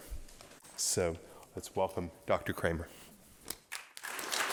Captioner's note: applause